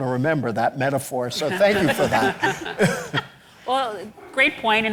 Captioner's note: audience laughs